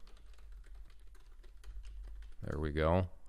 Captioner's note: keyboard clicking